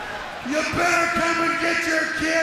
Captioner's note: crowd cheering